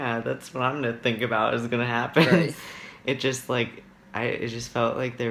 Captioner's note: laughs